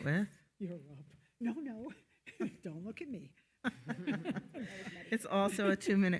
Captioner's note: moderator laughing